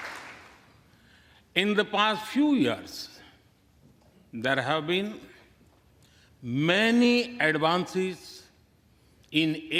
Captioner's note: applause